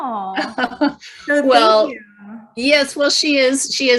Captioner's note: chuckling